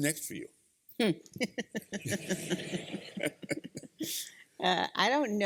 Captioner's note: laughter